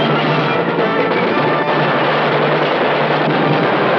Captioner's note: explosion